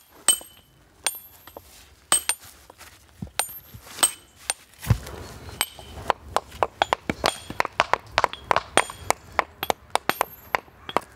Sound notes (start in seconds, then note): 2.1 chiselling